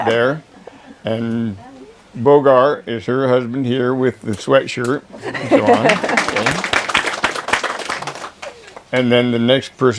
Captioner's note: applause